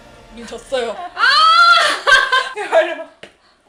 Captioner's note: laughing